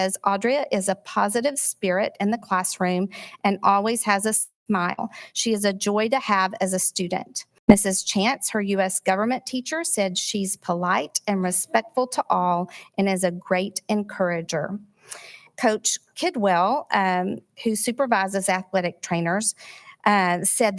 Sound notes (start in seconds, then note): none